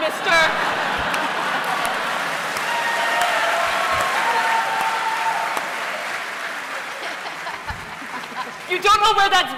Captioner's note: laughter